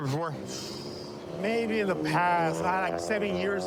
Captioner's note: exhales sharply